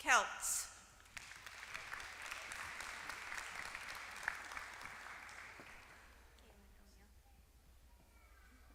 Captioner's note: applause